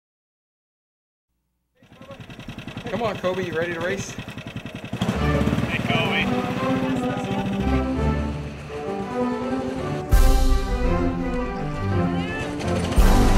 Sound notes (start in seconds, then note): 7.9 engines revving; 12.1 cheering